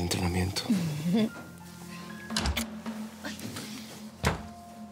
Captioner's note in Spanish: Sonido al abrir la puerta